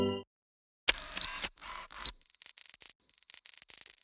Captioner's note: camera cranking